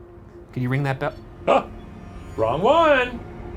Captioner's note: bell ringing